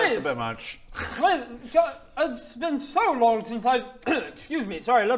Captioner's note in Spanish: se aclara la garganta